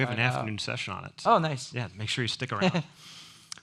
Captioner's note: laughs